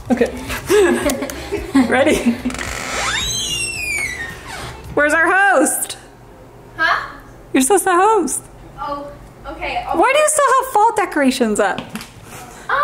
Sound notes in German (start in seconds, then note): 0.4 kichern; 2.4 Tür quietscht